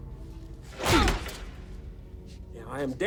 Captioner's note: punch thuds